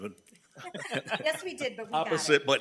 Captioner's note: attendees laughing